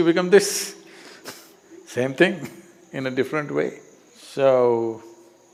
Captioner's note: laughs